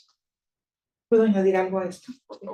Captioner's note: speaking Spanish